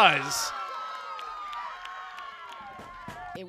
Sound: cheering

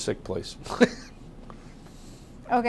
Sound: laughs

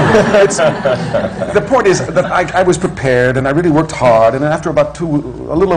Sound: laughter

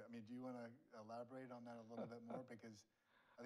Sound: laughs

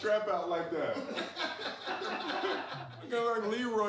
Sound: all laughing

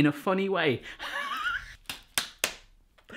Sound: laughing

